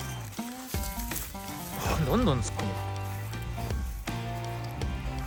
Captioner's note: laughs